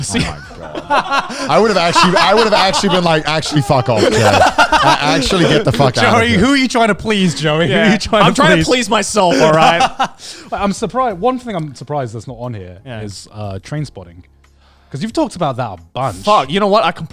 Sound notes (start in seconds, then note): 0.0 everyone laughs